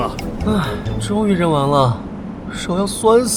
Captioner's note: sigh